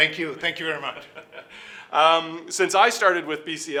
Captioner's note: laughing